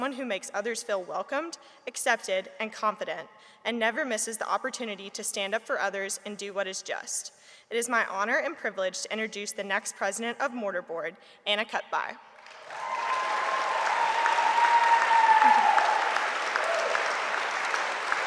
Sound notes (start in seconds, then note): 12.4 audience applauding; 12.5 audience cheering